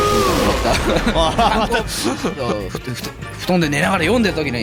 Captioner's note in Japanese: 笑い